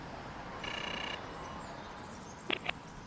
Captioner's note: doorbell rings